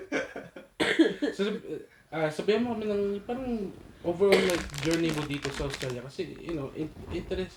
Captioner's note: Crunch